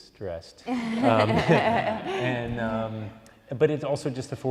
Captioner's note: laughing